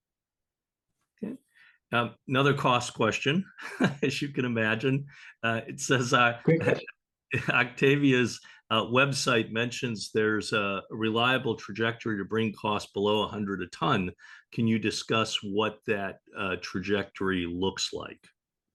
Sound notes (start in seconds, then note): 3.4 chuckling